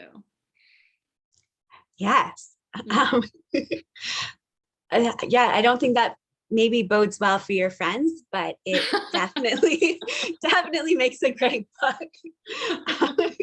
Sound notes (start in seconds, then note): 8.7 laugh